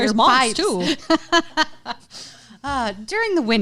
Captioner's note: laughing loudly